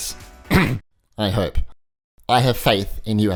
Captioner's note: coughs